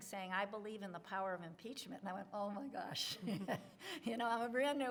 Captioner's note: laughs